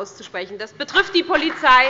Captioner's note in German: Allgemeiner Beifall